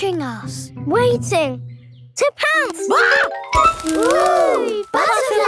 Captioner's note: screams